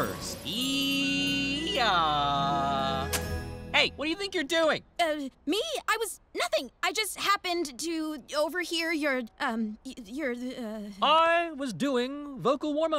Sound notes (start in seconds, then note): none